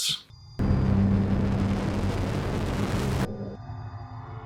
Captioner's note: engine rumble